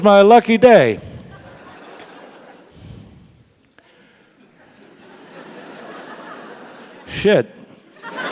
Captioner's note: laugh; laugh